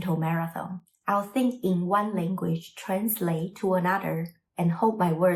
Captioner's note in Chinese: 中文